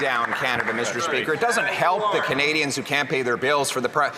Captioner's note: some Applause